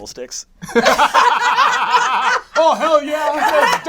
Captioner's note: all laugh